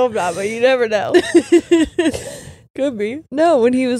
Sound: laughing

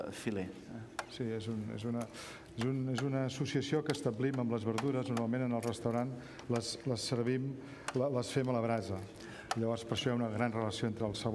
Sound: speaking catalan

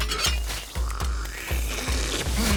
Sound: cash register chime; slurps

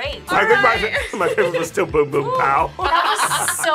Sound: laughs

